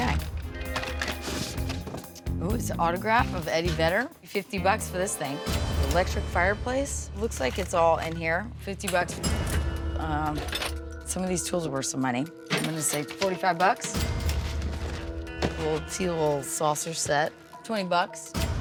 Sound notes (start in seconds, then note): 8.9 cash register dings; 14.1 cash register dings